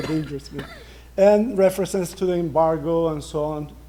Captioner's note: laughter